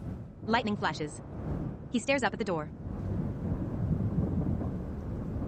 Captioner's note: thunder rumbles